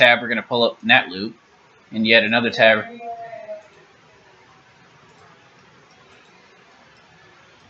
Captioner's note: long pause